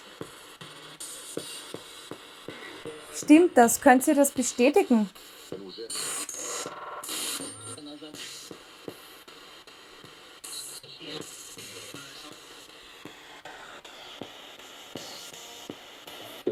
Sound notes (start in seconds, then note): 5.8 sound of the Spirit Box in the background